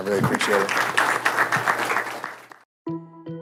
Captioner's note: applause